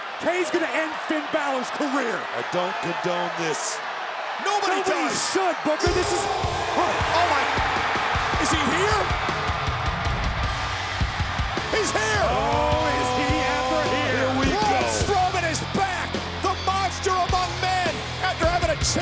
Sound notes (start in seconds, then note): 10.1 crowd cheering; 10.1 rock music